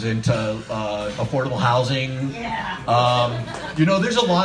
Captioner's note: audience shouts, "yeah"